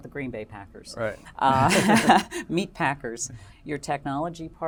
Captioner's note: laugh